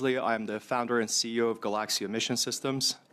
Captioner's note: speaking French